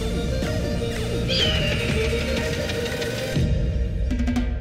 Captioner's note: dramatic music; birds screech